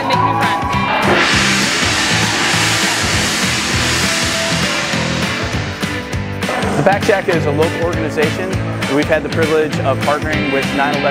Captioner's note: gong Rings